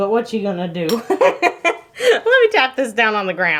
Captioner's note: laughing